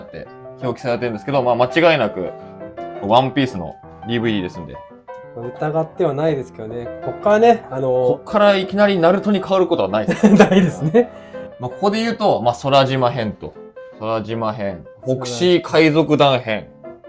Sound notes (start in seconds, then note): 10.1 laughs